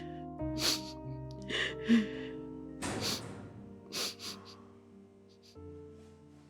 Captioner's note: Mamma Pita continues to cry